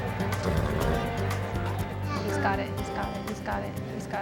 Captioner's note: horse snorting